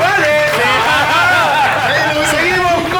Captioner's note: laughs